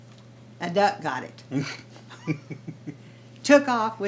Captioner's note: chuckles; Jerold laughs